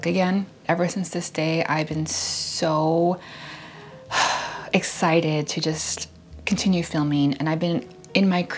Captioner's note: sigh